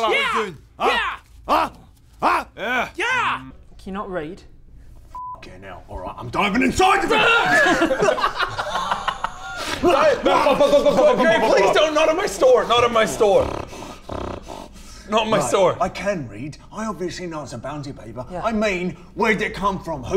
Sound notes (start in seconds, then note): 12.7 snort; 14.0 snarl